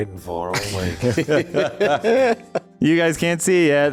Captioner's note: laughing